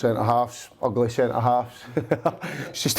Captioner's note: laughs